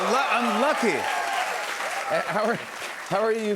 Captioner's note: cheers and applause